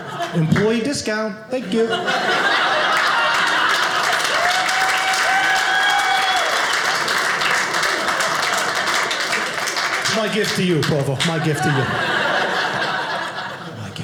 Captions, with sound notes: Employee discount. Thank you. (audience laughing) (audience cheering) My gift to you, Provo, my gift to you. (audience laughing)